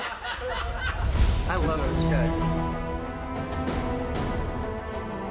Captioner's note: group laughs